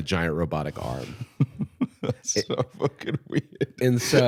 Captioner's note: laughing